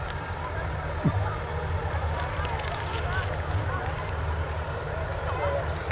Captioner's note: revving and chattering continue